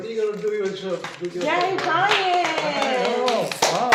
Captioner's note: clapping